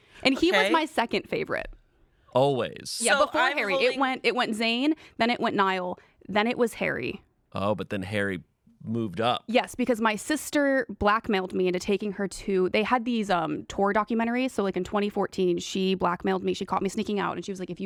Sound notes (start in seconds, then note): none